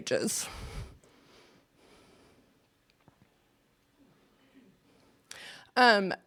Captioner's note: sighs